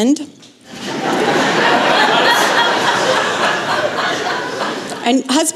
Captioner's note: laughter